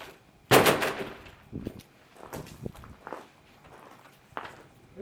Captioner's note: door slams